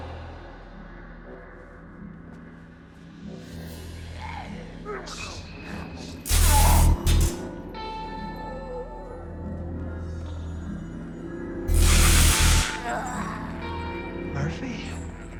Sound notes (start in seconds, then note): 3.5 snarling; 6.2 zapping